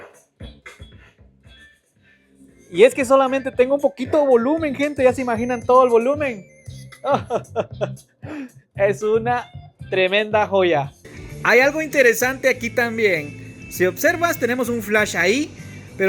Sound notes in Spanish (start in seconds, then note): 7.0 risas